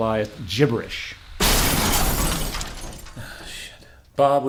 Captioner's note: glass Breaking